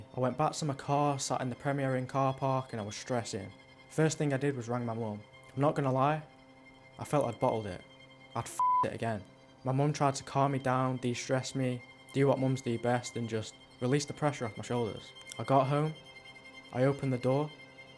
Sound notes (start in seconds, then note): 8.6 beep